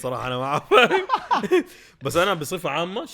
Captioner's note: both laugh